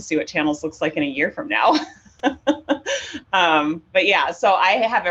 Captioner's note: laughs